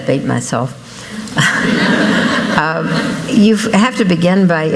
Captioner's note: laughter